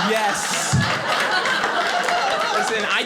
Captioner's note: audience laughing